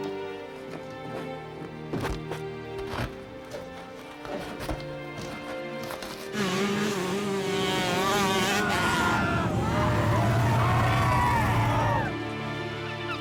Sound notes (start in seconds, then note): 9.7 shouting